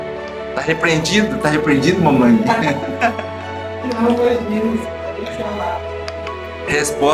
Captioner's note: laughter